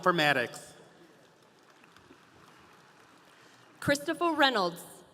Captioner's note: audience applauding